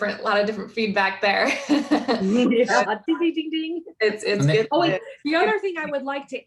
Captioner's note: laughs